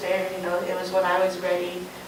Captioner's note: none